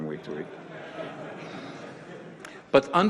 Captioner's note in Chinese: 會眾笑